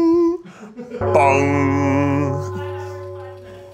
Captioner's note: bell rings